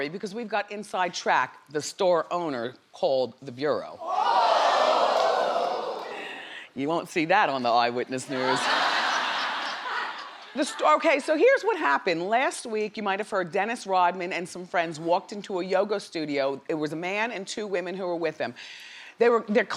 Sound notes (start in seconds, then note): 4.0 crowd reacts; 8.3 crowd laughs